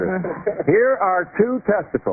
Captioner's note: laughter